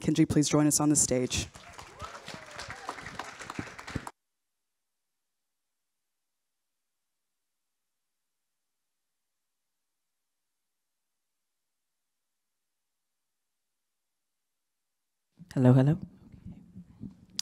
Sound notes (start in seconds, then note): 1.3 audience claps